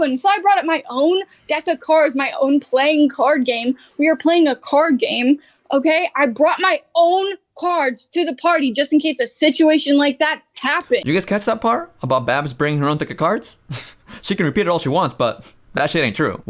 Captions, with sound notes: You guys catch that part? About Babs bring her own deck of cards? [chuckles] She can repeat it all she wants, but that shit ain't true.